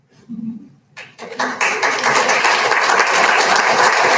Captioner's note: applauding